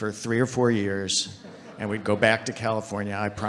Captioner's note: audience laughing